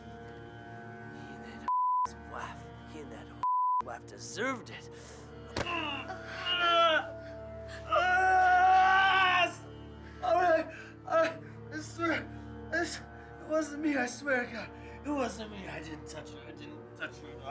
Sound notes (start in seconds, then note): 5.5 groans; 7.9 tommy screams